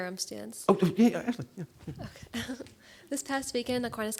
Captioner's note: giggling